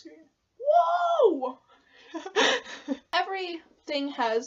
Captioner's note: laughs at self